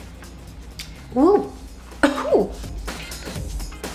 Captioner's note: upbeat music; coughs; upbeat music